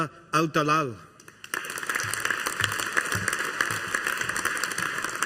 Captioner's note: audience applauding